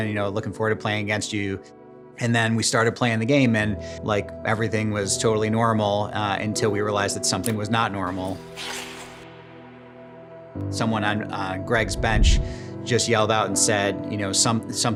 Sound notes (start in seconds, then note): 8.2 ice skate sliding